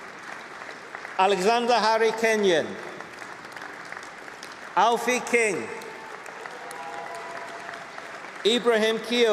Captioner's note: applause; applause